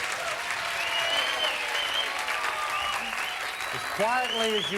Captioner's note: audience applauding